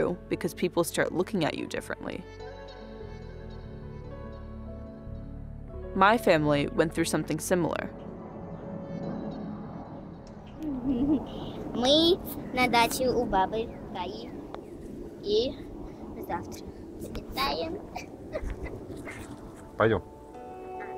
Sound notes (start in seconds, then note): 11.6 speaking Russian; 20.0 father speaking Russian